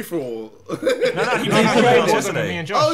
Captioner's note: laughing